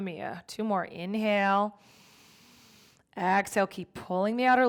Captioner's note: inhales deeply